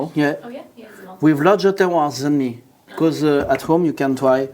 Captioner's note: pouring